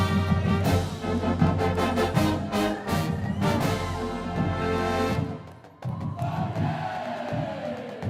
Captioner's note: cheers and Applause